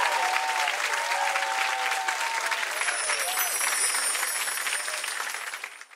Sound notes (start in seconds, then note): 0.0 applause and cheering; 2.6 chimes